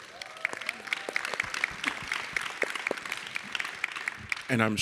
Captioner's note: audience clapping